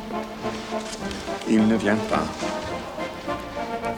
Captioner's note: upbeat orchestral music; John speaks French